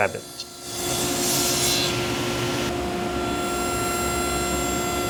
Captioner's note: cutting into wood